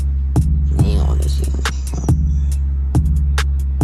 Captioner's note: disappointed gibberish